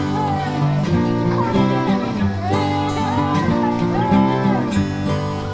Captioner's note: kids cheering